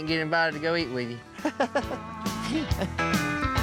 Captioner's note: laughs